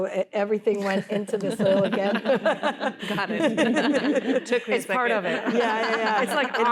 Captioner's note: laughter